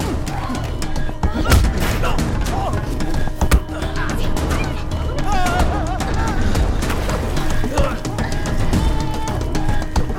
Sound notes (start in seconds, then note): 5.2 screams